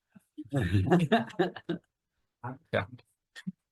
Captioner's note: laughing